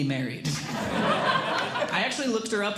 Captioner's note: audience Laughing